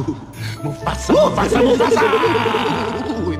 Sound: laughs

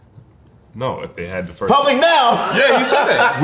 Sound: laughs

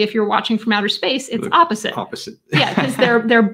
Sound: chuckling

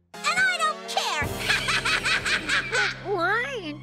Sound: laughing manically

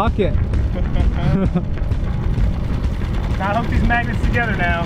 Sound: chuckles

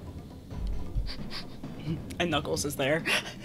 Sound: sniffling laughter

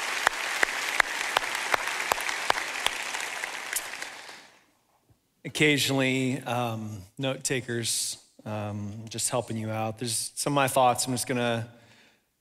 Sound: applauding

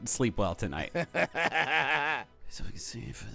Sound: laughing

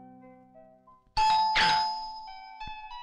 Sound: door Bell

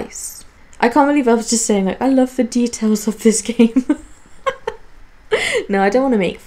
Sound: laughs

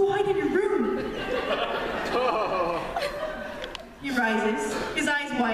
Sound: laughter

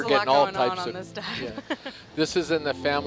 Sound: laughs

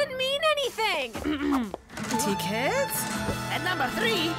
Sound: clearing throat

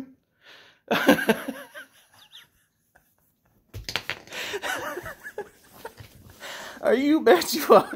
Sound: laughs

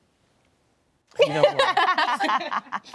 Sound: laughter

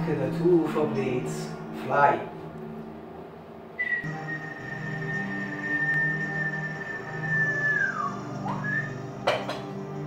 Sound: whistle

